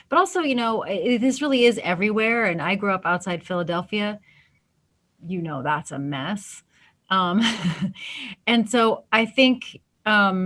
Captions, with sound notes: But also this really is everywhere and I grew up outside Philadelphia. You know hat's a mess. (laughs) And so I think